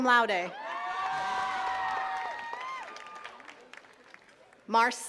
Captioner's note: attendees cheering and clapping